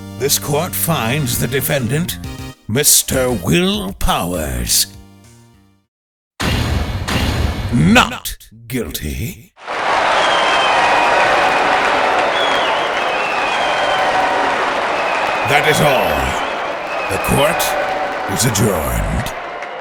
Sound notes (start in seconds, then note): 9.6 cheering